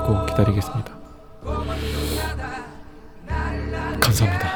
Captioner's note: breath-holding